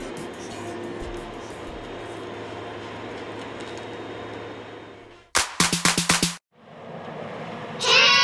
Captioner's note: feller buncher sounds